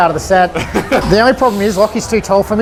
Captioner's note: laughter